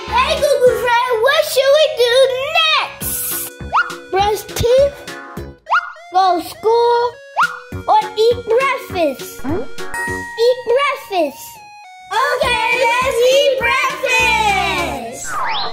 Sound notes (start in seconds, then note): 9.9 ding